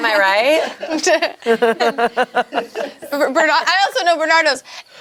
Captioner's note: group laughs